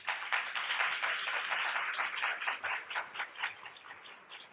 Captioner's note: audience applauds